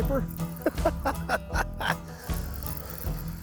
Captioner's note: laughs